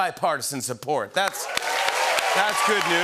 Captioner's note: cheers and applause